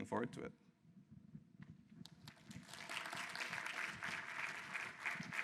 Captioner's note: applause